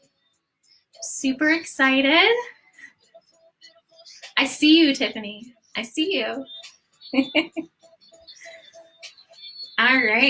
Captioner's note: laughter